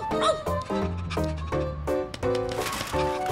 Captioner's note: panting